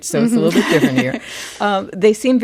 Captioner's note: laughter